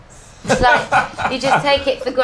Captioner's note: laughter